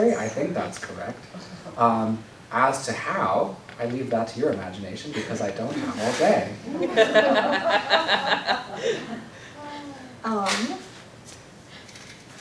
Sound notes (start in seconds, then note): 6.7 laughter